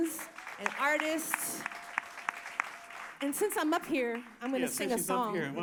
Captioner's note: applause